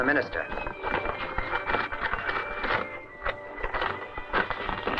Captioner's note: note rustling